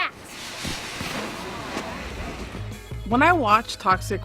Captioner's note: crowd murmuring